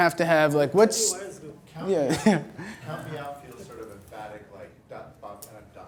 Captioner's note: voiceover